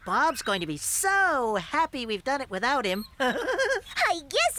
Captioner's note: giggling